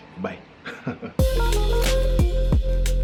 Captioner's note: laughs; upbeat music